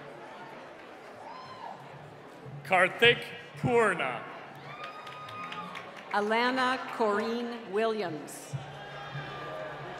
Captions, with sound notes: - Carthik Purna. (cheering) - Alana Corrine Williams.